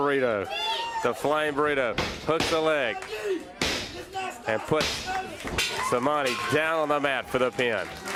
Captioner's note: crowd cheering